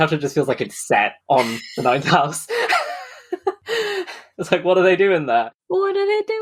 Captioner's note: laughs